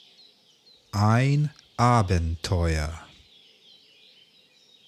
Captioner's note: german